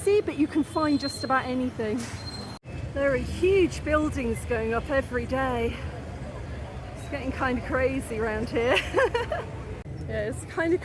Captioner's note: laughing